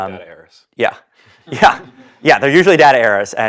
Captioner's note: laugh